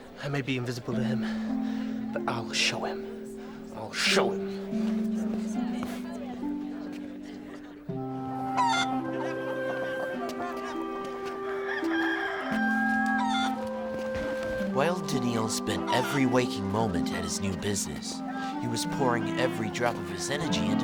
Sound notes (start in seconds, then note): 5.3 somber music; 8.5 chicken cooing; 11.3 rooster crowing